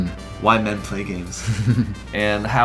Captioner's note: laughs